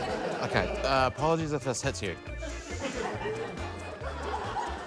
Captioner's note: laughter; laughter